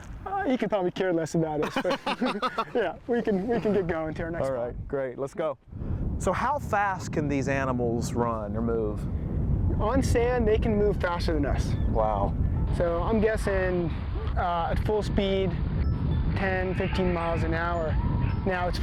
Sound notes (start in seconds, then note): 1.6 laughter